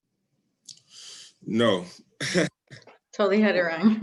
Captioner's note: laughs